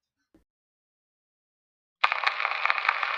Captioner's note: radio jingle and some crackling when people speak since it’s an old recording